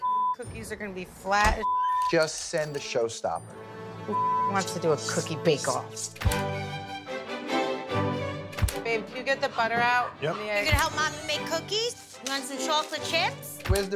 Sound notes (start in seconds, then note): 1.6 beep; 4.1 beep; 6.2 classical music